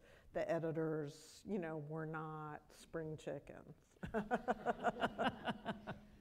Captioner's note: laughs